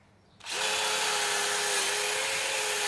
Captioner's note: whirring